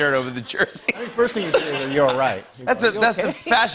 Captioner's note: laughter